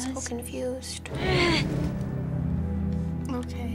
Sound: Clementine grunts

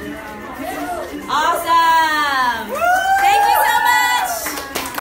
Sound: applause

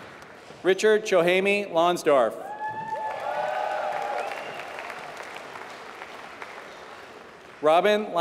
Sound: applause

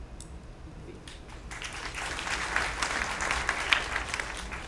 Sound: applause

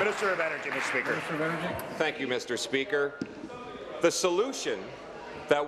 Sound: applause

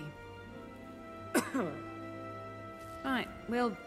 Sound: cough

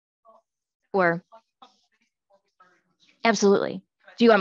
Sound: faintly speaking

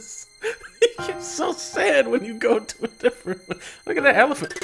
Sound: laughing

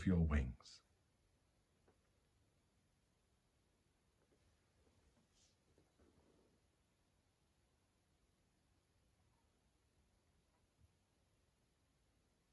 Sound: silence

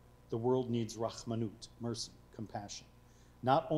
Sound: speaking foreign language

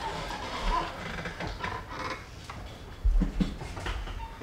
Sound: wood creaking

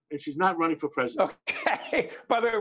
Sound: laughing

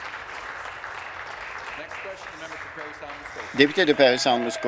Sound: applause

